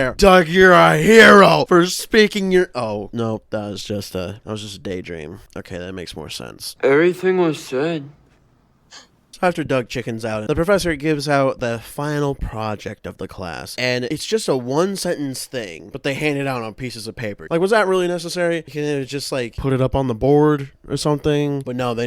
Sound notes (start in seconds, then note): 8.1 girls sighs with relief